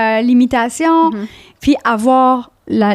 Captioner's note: in french